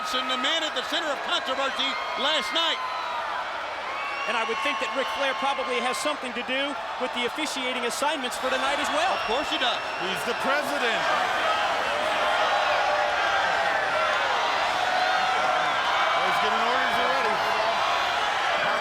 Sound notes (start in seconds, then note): 11.2 crowd chattering